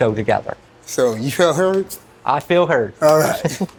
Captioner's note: chuckles